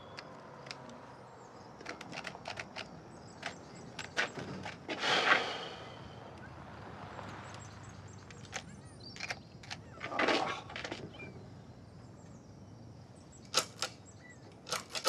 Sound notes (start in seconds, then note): 0.6 clicking; 5.0 sighing; 13.4 clicking